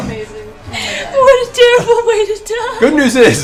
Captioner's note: laughs